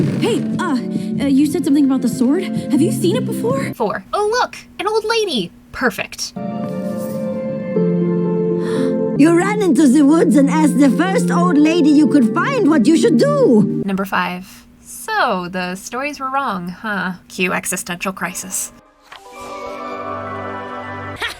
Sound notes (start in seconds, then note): 6.4 hopeful Music; 8.5 Luz gasps; 18.8 hopeful Music; 21.2 Luz laughs